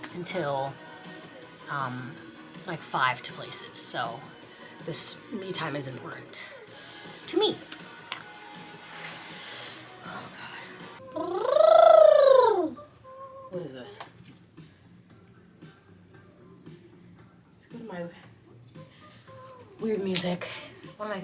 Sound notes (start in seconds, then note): 7.9 lively music; 11.0 trilling; 11.3 bright music